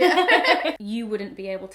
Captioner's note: laughter